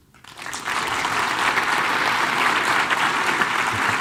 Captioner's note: audience clapping